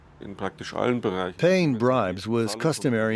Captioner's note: through translator